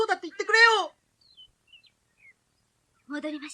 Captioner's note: SFX: birds chirping